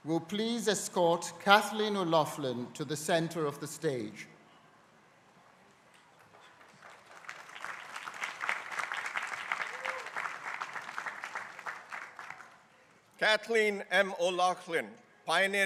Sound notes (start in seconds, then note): 6.2 crowd applauding